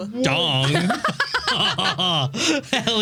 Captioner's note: laughing